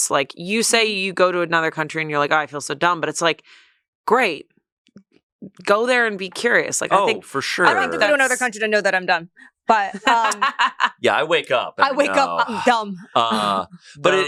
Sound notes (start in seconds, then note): 9.7 laughs